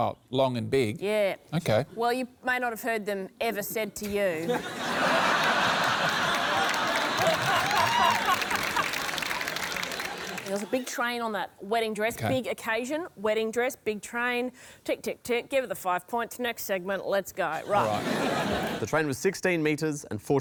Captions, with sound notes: OK. Well, you may not have heard them ever said to you. (LAUGHTER) It was a big train on that wedding dress. Big occasion. Wedding dress. Big train. Tick, tick, tick. Give her the five points. Next segment. Let's go. Right. Right. The train was 16m and 43cm long.